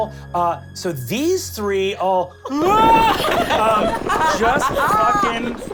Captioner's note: screams